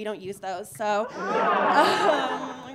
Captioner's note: audience laughing